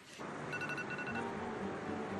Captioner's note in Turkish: Telefon çalıyor